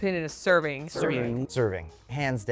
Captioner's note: everyone in unison